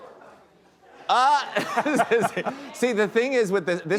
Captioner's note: men laugh